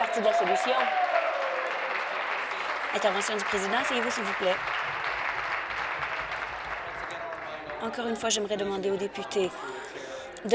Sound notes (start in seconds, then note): 2.7 applause